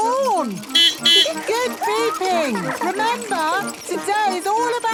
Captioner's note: giggling; beeping